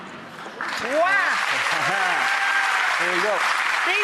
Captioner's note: audience applauds